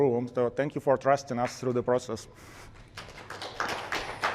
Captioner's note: applause